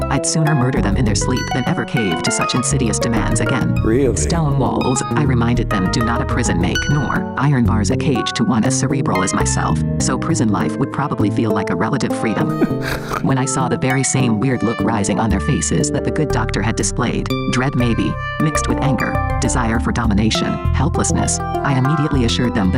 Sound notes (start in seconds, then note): 12.4 MaleV chortles